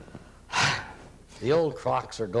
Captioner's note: sigh